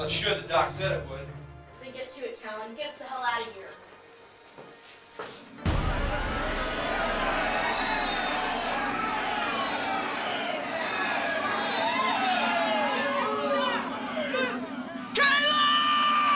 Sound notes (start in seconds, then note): 5.6 dramatic music; 8.1 people shouting